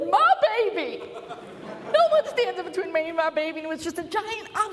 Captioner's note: laughter